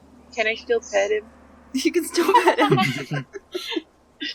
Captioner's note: laughs